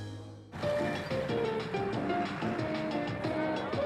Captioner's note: murmured conversations